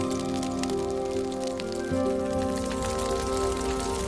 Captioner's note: fire crackling